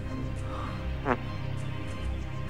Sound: fart

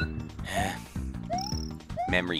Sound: sigh

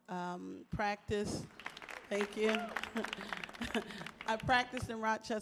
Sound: audience applauds

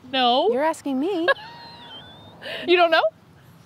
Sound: wheezing

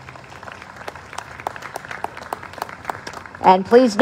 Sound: applause

